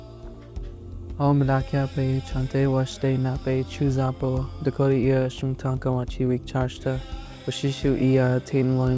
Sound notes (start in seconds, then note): 1.5 speaking in Dakota language